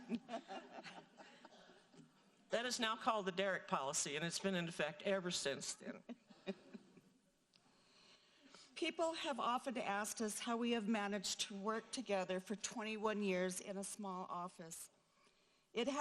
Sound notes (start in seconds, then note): 0.0 audience laughing; 5.9 laughing